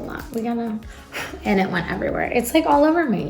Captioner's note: blows air